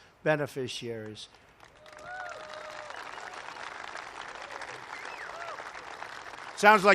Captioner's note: applause